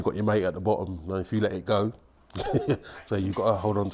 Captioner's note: laughs